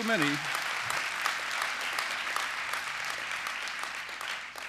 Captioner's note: applause